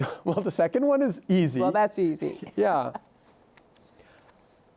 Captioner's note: chuckles